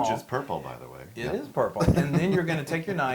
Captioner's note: laugh